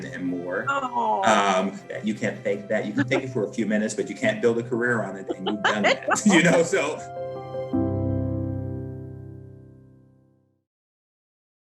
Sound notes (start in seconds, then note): 4.9 laugh; 7.1 outro music